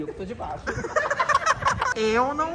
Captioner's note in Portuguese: risos